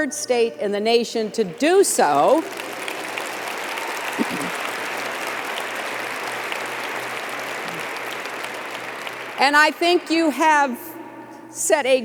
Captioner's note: applause